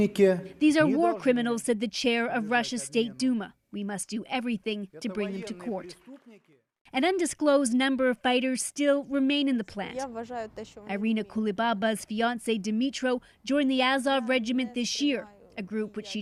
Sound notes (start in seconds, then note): 2.4 speaking alternate language